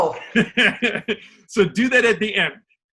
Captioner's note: laughs